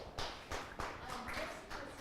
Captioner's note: applause